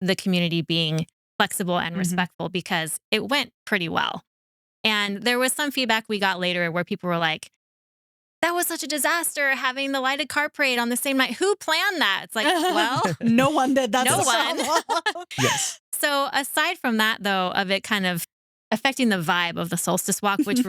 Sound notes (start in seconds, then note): 15.4 laughing